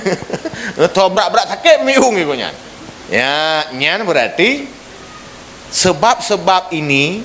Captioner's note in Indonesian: tertawa